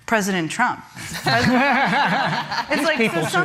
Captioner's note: laughter